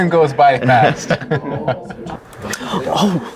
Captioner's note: laughing